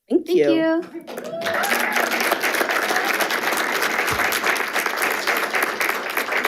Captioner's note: group applauds and cheers